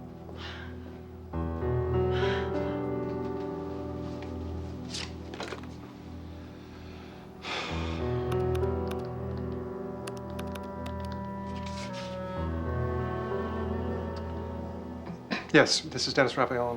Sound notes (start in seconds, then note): 0.6 breathing heavily; 6.6 sighs; 8.3 dialing phone